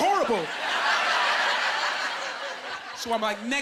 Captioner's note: laughing